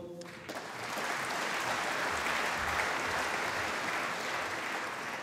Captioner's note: applause